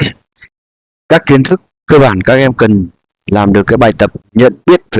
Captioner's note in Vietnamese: hắng giọng